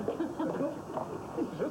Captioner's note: rires